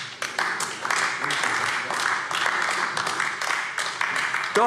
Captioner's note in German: Beifall AfD